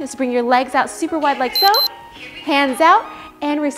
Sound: timer beeps

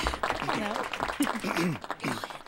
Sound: clears throat

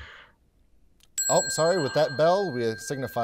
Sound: bell ringing

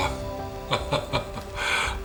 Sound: laughing

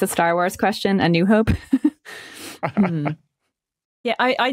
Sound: both chuckle

